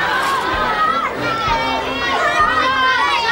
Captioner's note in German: Kinder lachen und schreien